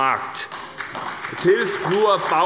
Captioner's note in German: Beifall bei der SPD